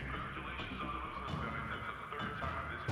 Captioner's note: loudspeaker